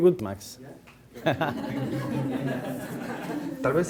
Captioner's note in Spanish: Todos ríen